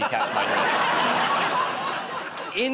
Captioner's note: laughter